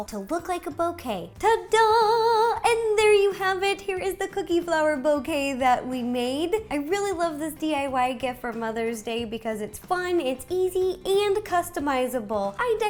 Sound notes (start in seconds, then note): 1.4 singsong